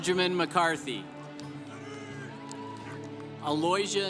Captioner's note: congregation applauding